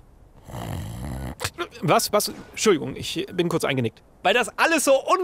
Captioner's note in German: schnarcht